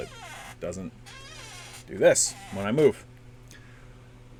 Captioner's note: annoying squeak